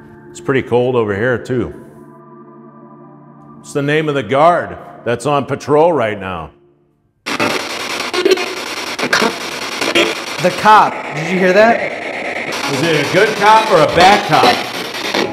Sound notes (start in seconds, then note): 7.2 static signaling; 8.9 disembodied Voice; 15.2 disembodied Voice